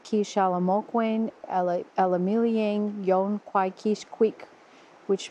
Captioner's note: speaking Delaware language